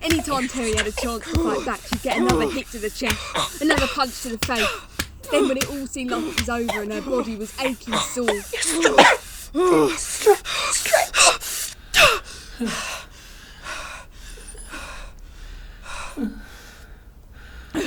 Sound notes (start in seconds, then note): 8.8 gasping for breath; 12.6 heavy exhausted breathing from both